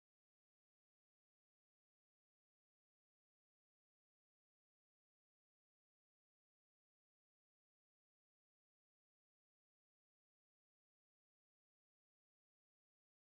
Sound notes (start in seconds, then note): none